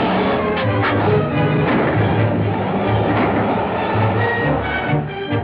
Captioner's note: gunshots